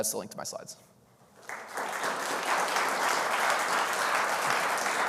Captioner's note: audience applauding